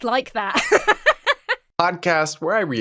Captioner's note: laughs